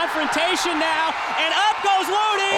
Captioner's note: crowd chatter